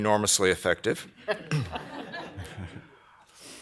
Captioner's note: laughter